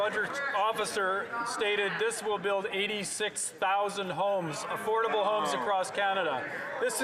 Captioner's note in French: voix de l'interprète